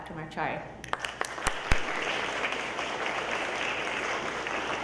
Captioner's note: audience applauds